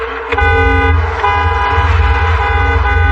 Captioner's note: enginaccecerates